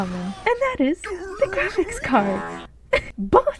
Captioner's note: chuckle